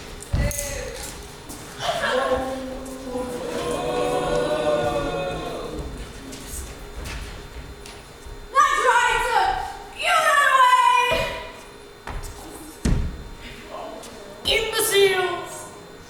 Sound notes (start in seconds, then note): 1.8 audience boos